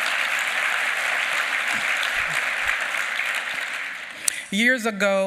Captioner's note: applause